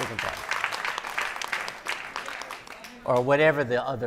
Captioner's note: audience applauding